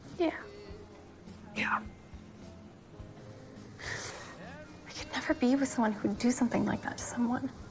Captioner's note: sniffles